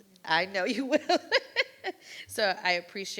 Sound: laughs

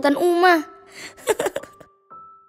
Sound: laughing

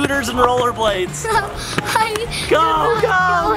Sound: giggles

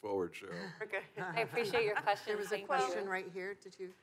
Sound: laughs

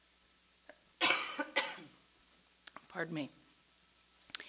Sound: coughs

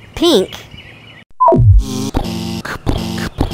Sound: beep; buzz; pounding footsteps

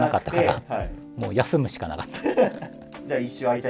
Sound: laughing

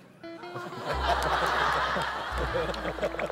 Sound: puhahahah

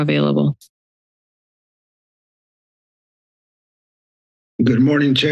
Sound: silence

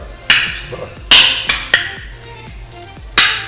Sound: clinking Sound

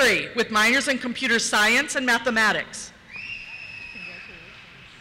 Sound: cheers

